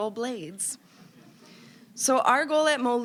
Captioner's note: audience chuckling